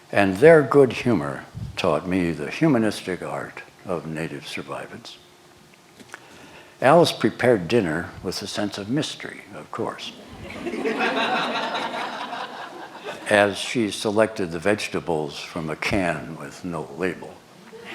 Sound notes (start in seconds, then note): 10.2 laughter